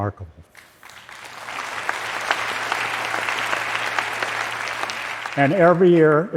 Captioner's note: applause